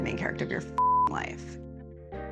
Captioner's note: beep